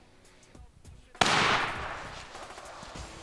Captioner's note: gunshot firing; rock music